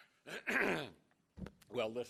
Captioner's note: clears throat